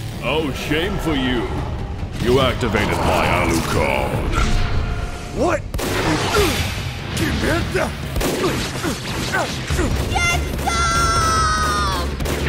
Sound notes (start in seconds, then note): 5.8 bang; 6.3 grunts